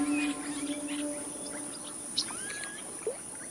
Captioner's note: birds chirping